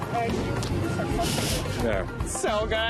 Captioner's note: chuckles